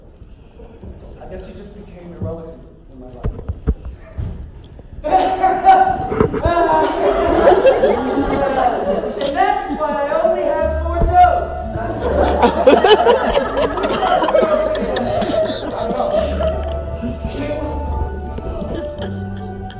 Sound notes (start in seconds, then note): 6.0 Akio laughing hysterically